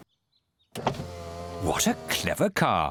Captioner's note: whirring